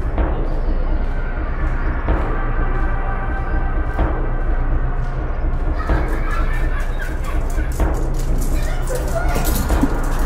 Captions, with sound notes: *Chuckles menacingly* *Footsteps grow louder* Time for fun!